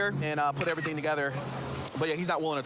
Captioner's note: camera app clicks